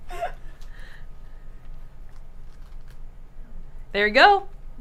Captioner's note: laughter